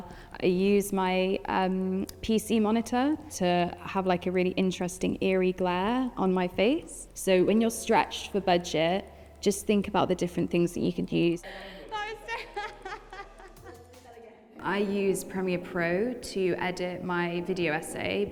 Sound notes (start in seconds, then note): 11.7 laughs